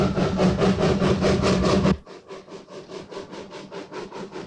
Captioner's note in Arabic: صوت القطار